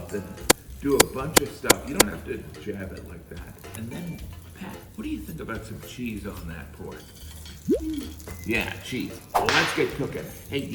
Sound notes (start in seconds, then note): 7.7 pat; 9.3 whip snapping